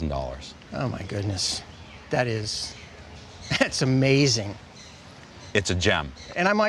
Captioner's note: laughs